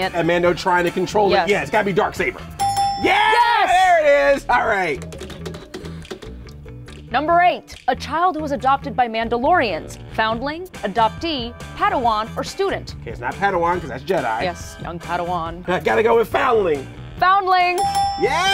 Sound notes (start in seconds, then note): 2.6 dinging; 5.3 wheel pegs clicking; 17.8 dinging